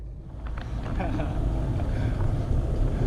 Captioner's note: laughs